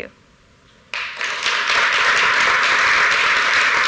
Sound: applause

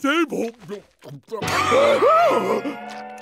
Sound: gasping

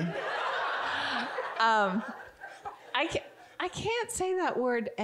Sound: audience giggling

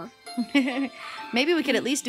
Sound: laughing

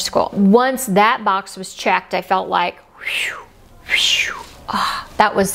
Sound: exhales

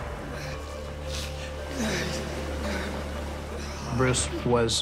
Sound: grunting

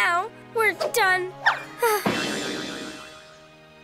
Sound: sighs

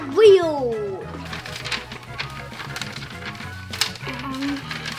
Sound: paper shuffles

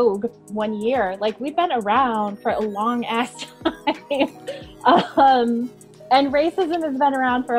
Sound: laughing

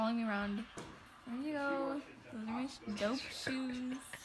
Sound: laughing

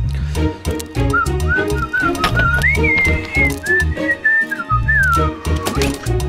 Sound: whistles

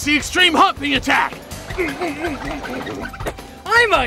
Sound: grunting

